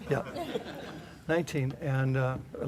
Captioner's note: laughter